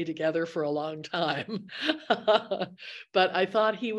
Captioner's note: laughs